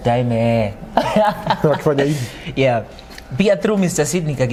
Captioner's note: laughter